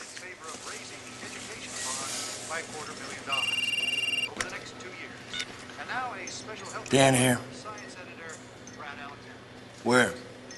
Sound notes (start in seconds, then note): 3.3 Звънене на мобилен телефон